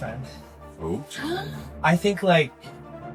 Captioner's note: gasp